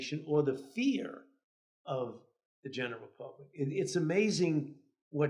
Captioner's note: none